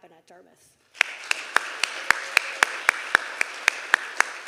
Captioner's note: everyone applauding